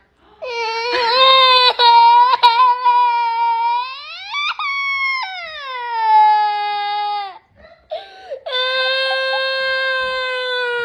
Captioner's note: kid cries